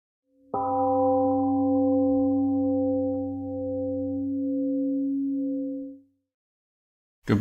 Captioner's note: temple gong rings and fades